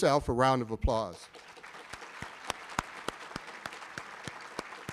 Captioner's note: audience applauding